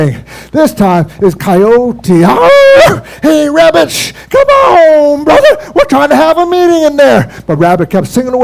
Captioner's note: howls